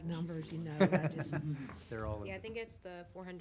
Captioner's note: laughs